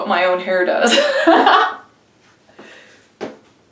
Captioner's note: laughing